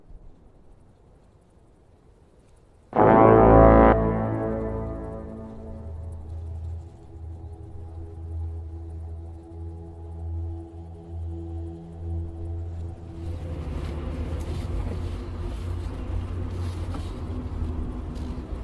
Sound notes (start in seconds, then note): 2.9 horn blaring; 6.4 eerie music